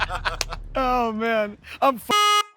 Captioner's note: honk